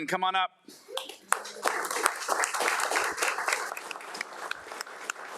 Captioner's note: crowd applauding